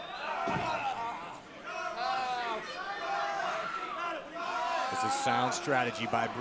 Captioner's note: crowd cheering